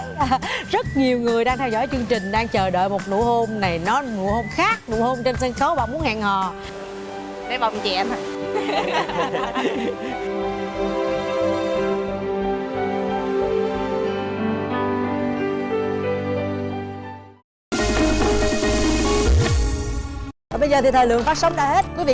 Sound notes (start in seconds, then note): 8.5 laughing